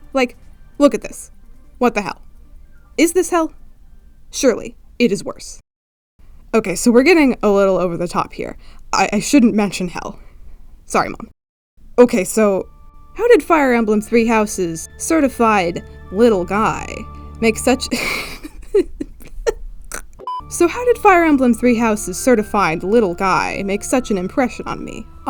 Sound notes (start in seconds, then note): 17.9 cracks up; 19.9 snorts